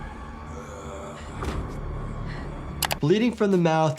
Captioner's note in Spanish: criatura gimiendo